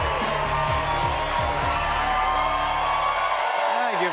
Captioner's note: theme music plays; cheers and applause